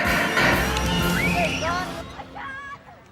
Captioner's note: screaming